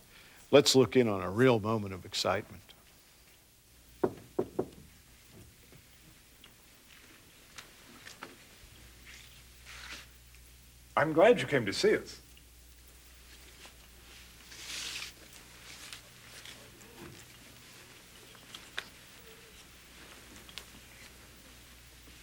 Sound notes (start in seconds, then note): 4.0 knocking at the door